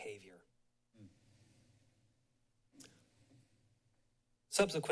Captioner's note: silence